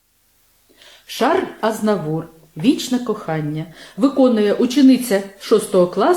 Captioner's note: Ukrainian